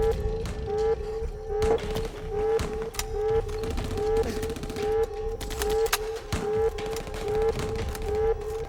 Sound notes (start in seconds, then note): 1.6 gunfire pops in the distance